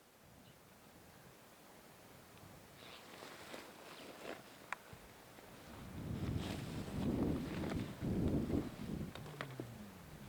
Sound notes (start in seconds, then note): 5.4 wind blowing